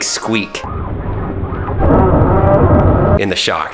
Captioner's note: squeaking